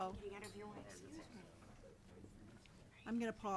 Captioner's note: attendees chattering